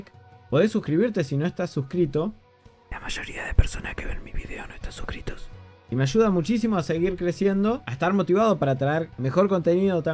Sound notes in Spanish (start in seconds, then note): 2.9 Susurrado